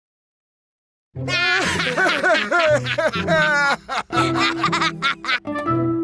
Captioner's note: both laughing heartily